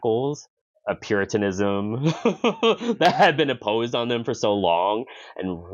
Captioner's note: laughs